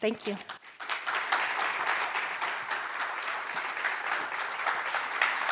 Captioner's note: audience applauding